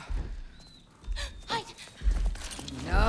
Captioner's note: gasp